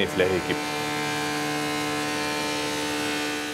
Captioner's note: loud whirring